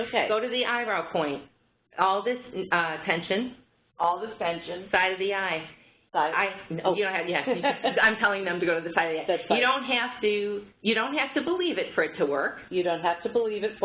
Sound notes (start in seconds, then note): 10.7 laughter